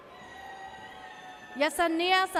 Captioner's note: audience cheers